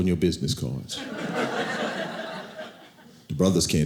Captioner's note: audience laughing